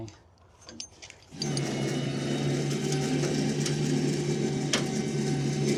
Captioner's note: trailer whirring